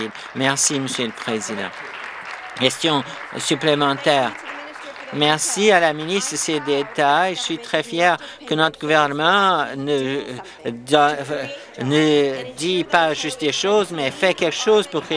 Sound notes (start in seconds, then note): 3.0 applause